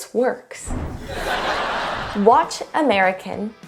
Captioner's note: audience laughs